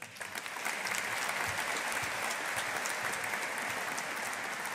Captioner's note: audience applauding